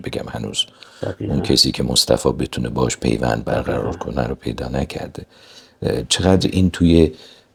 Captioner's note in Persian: صدای خرناس